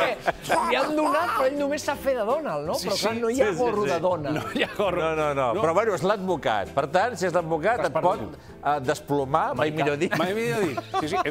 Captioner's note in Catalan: imita l'ànec Donald